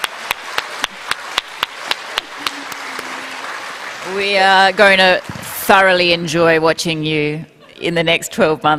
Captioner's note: applause; laughter